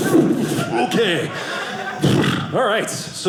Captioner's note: audience laughing